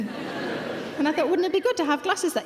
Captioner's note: audience laughing